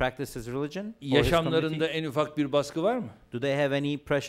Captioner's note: non-english speech